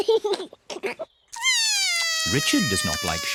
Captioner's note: giggles; cries